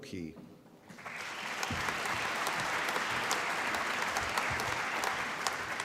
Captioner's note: applause